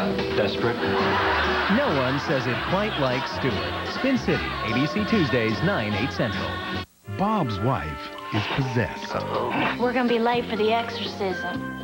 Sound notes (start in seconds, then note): 0.7 audience laughter; 7.8 snorts